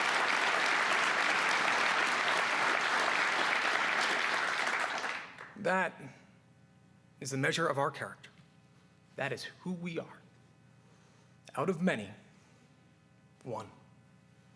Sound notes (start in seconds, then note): 0.0 cheers and applause